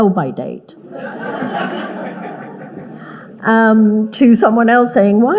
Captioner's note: audience laughing